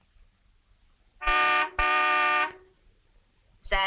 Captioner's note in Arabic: صوت بوق السيارة